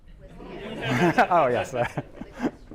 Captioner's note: laughter